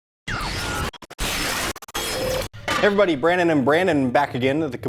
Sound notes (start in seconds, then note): 0.2 music scratching